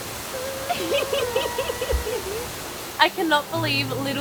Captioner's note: laughing